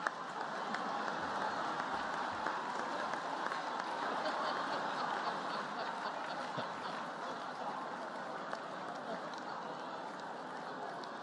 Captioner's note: laughter, applause